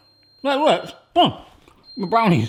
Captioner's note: oven beeping